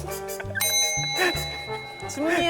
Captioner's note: ding